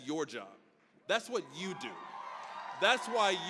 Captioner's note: graduates cheering